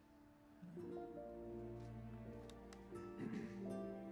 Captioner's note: clears throat